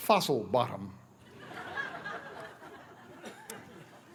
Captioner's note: laughter